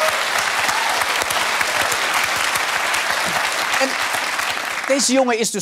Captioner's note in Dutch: applaus